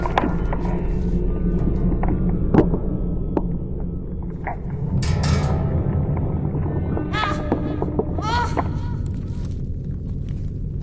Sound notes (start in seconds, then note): 8.2 Mr. Punch cries in terror